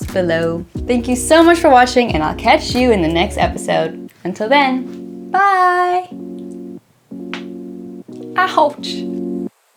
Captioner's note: ankles crack